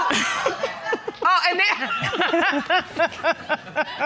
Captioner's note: laughs; audience laughs